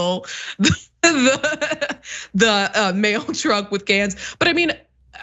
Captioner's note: laugh